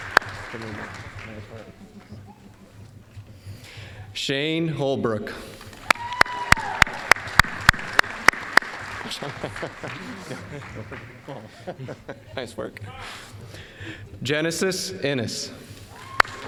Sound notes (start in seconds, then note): 0.0 applause; 5.6 applause; 12.2 chuckling